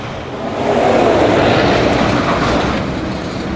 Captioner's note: traffic roaring